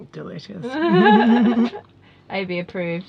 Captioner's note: laughs